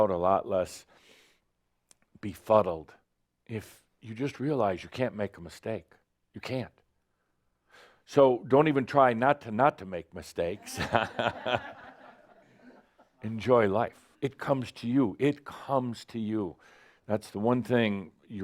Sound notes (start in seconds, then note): 10.6 some chuckles